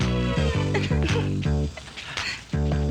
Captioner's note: gasps